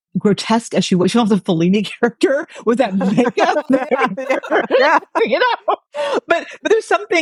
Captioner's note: laughing